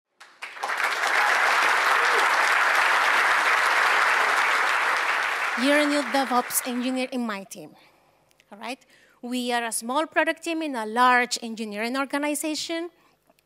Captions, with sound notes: [applause] You're a new DevOps engineer in my team. All right? We are a small product team in a large engineering organization,